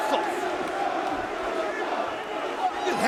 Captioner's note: spectators cheering